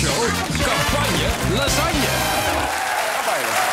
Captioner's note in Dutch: applaus en gejuich